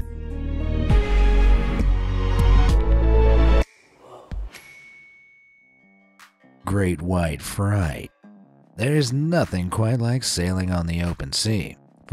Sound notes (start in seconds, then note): 0.1 bright intriguing music; 4.5 light pings